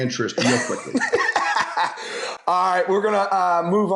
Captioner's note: laughs